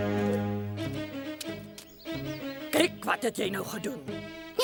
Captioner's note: laughing